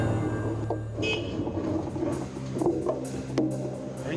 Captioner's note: car horn